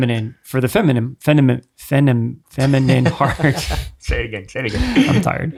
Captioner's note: stammering